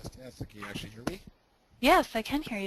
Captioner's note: voiceover